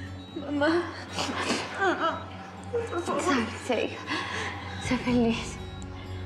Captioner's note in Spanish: alarma de telemetría